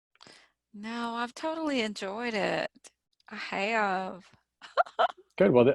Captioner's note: chuckles